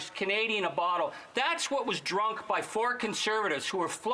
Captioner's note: speaking French